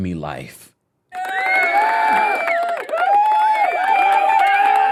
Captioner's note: audience cheering